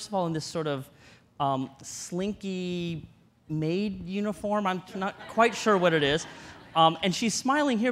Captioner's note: audience laughter